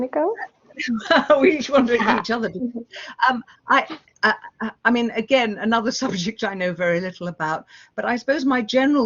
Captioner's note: laughing